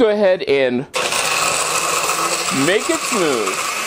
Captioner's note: blender noise